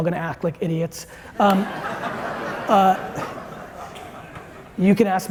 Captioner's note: audience laughing